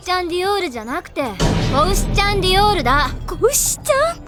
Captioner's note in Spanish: en japonés